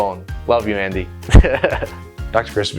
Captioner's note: laughs